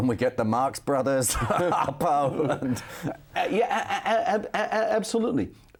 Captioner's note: laughs